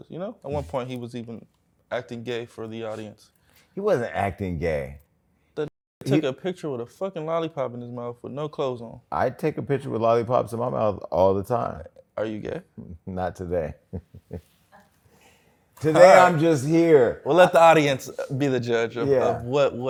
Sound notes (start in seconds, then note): 13.8 laughs